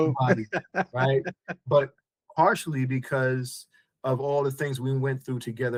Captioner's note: laughing